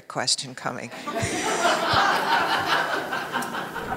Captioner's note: laughing